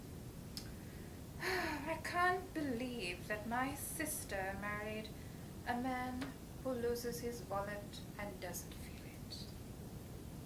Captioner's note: sigh